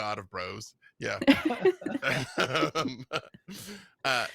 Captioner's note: laughing